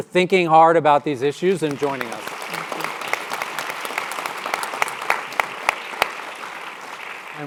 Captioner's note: applause